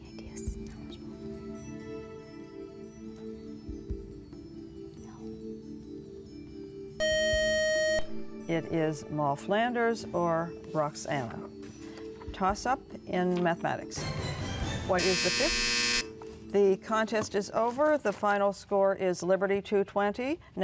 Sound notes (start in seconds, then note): 5.2 buzzer; 14.9 buzzer